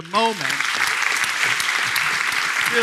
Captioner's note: applause